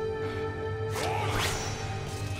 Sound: grunting

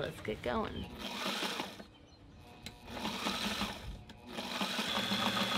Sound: sewing machine revving

